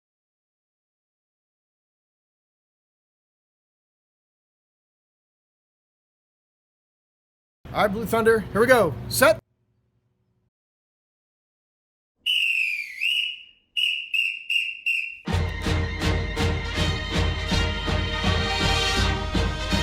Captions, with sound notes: - All right Blue Thunder! Here we go, set! (whistling) (upbeat music)